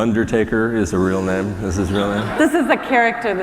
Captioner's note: laughter